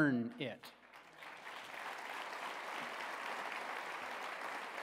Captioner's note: applause